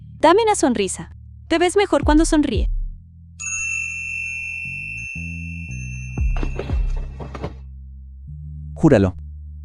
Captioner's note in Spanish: campana